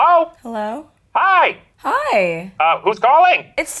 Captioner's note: voiceover